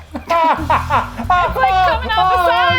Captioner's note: laughs